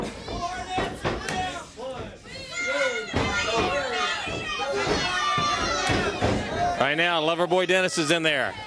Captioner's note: crowd chatter